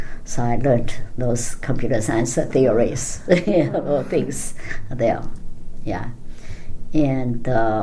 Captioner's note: laughing